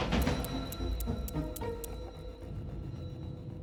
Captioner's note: clicking